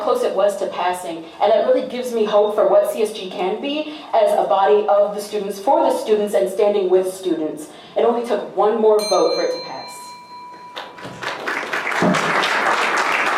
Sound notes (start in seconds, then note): 9.0 timer bell dings; 10.7 applause